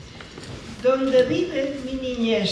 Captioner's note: speaking spanish